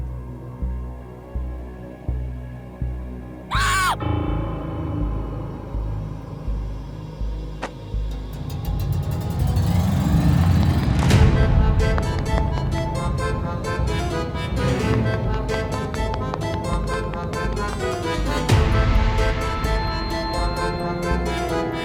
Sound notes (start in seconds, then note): 0.1 dramatic music; 3.5 dramatic screaming; 5.3 dramatic music; 11.2 upbeat music